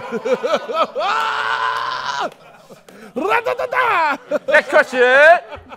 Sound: laughs

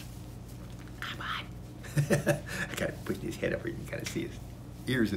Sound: whispers to cat

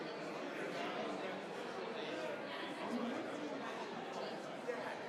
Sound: group chattering continues

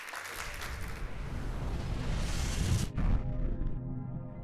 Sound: applauding; whooshing

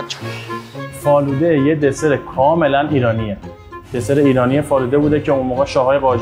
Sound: speaking in foreign language

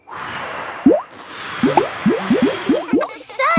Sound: all blowing

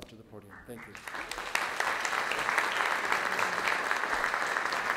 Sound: audience clapping

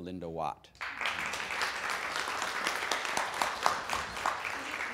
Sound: audience applauds

